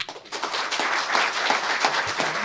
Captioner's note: clapping